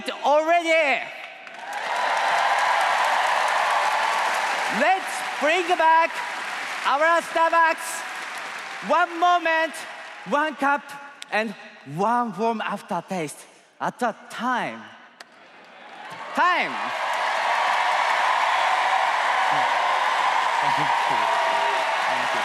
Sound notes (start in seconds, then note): 9.6 applause